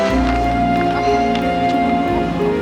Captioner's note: gasping